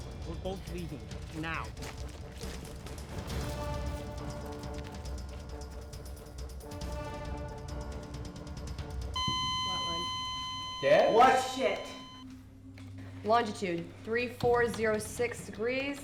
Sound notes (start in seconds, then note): 3.3 suspenseful orchestral music; 9.1 beeping